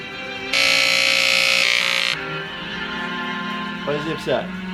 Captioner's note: clipper buzzing